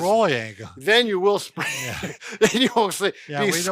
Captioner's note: laughing